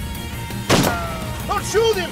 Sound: gun shot

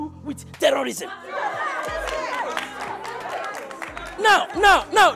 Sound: applause

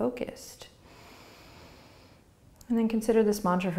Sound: breathing

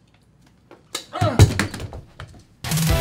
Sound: snap

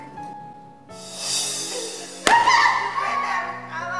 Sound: belt slaps

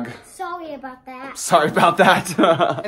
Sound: laughs

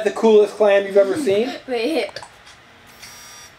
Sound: laughs

